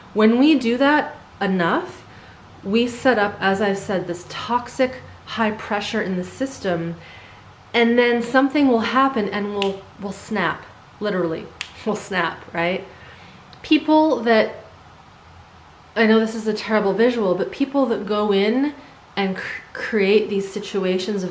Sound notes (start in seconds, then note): 9.6 snapping